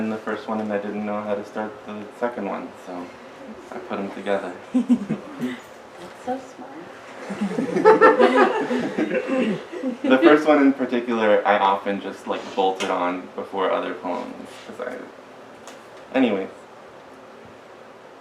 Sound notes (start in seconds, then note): 4.8 brief giggles; 7.2 laughter